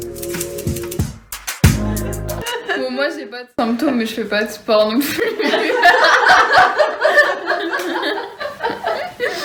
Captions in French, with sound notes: Moi j'ai pas de symptômes, mais je fais pas de sport non plus (rires)